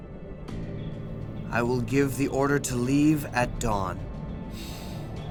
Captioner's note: gasps